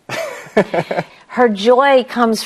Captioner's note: laughs